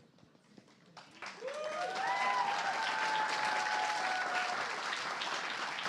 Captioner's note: applause